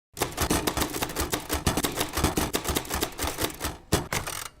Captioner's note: typewriter punches